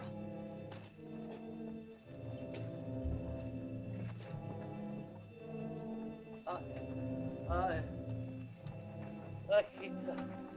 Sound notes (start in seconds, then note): 0.0 soft dramatic music; 6.5 man groans